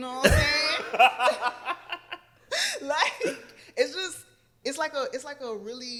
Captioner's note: laughter